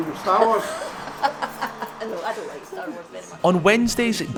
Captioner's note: Janice laughs